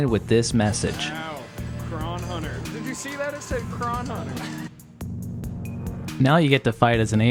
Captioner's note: laughter